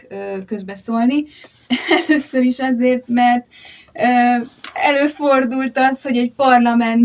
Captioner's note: laughter